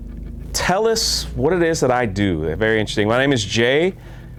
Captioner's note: exclaim